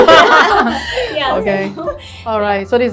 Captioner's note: everyone laughs